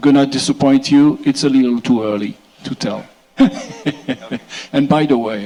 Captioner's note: chuckles